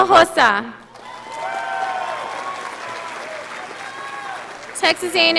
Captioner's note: audience applauding